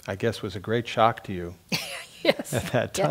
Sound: laugh

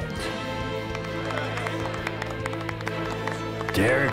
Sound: applause

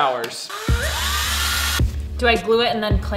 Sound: drill whirring

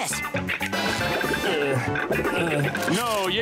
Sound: grunting

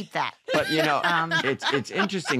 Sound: laughter

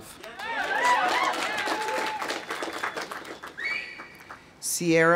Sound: audience applauding; audience cheering

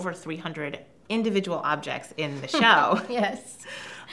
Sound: laughs

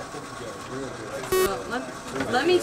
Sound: beeping

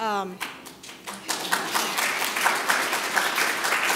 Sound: audience applauds

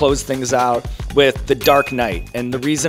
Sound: bell dings

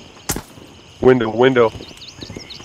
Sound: gunfire

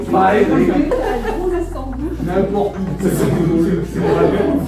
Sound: laughs

